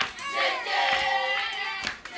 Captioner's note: clapping